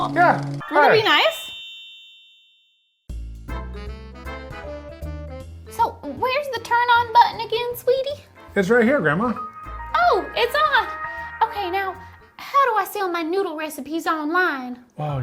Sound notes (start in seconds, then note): 0.6 gentle chime; 3.4 upbeat jazz music